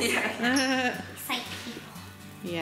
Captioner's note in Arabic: يضحك